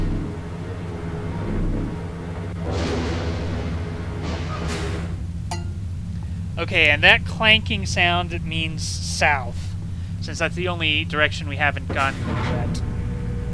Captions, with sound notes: *clank* Okay, and that clanking sound means south, since that's the only direction we haven't gotten yet.